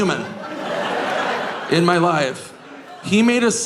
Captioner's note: audience laughing